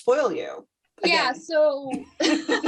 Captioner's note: laughter